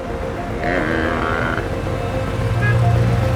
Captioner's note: traffic noise